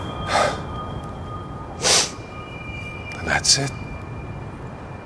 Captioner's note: Jim sighs; Jim sniffs